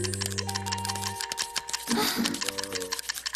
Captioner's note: clock ticking; gasps